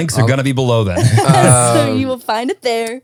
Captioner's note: laughing